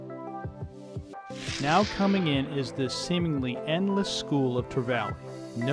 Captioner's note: swoosh